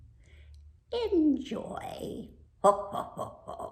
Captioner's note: laughs